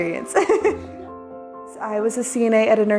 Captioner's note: laughing